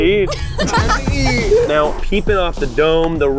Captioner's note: laughing